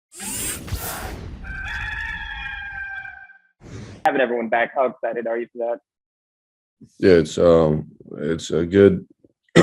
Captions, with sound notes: (cock crows) - having everyone back am started, are you not - Yes. Am .... it's a good,